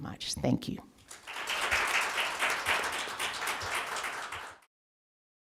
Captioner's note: sounds of applause fading